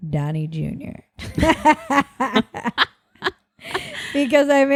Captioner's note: both laughing